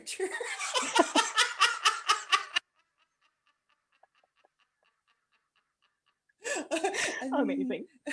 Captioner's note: explosive laughter